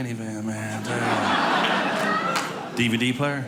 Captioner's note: audience laughing